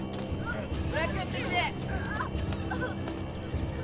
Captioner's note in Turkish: Hep bir ağızdan